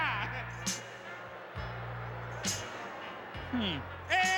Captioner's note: audience booing